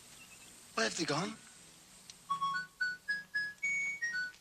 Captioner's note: watch beeping